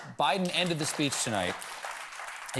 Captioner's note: applause